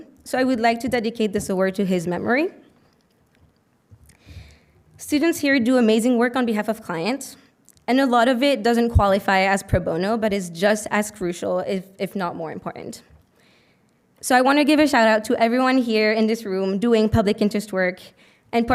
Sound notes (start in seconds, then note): none